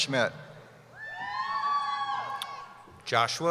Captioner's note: cheering